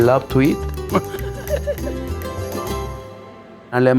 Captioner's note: laughs